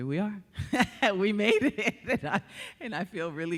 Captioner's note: laughing